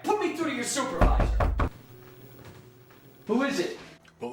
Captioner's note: knocking on door